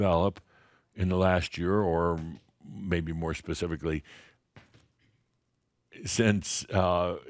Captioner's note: he pauses while there are some crackling sounds